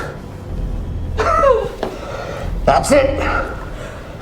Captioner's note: Tina groans; knife plunges; Tina groans